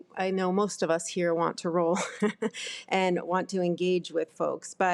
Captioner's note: laughs